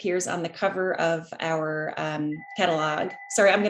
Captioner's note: ringing